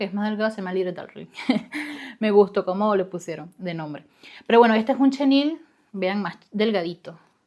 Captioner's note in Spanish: risas